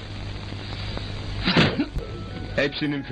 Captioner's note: boom; sad Music